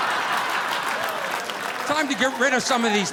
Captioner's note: audience laughing